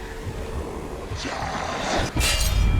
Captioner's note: growls